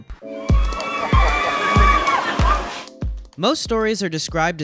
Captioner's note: joyful screaming